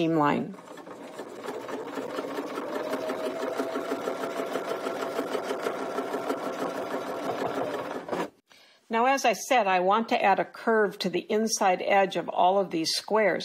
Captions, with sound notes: to the first seam line. [sewing machine whirring] Now, as I said, I want to add a curve to the inside edge of all of these squares,